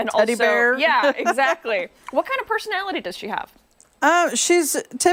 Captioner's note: laughter